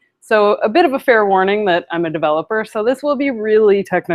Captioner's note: none